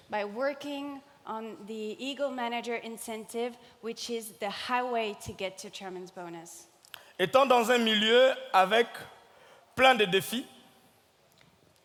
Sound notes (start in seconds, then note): 7.3 speaking in French